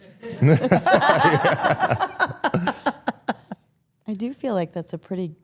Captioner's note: participants laugh